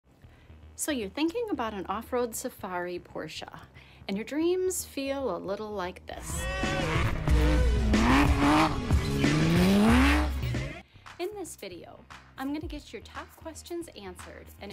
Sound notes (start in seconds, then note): 6.2 upbeat music; 6.2 engine roars